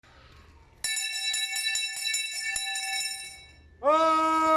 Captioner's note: bell ringing loudly